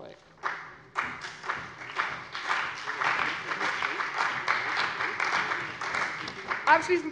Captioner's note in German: Beifall bei dem BÜNDNIS 90/DIE GRÜNEN, der CDU und der SPD